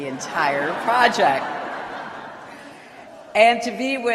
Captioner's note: laughter